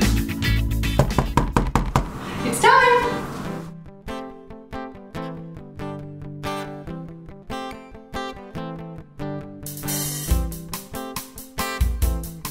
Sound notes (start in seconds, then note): 1.0 knocking; 5.5 funky music